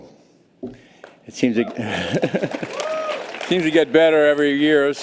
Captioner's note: laughs